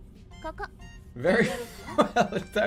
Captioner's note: bursts out laughing